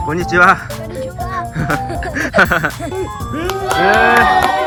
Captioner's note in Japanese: 笑い